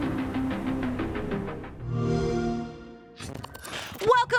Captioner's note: xbox sound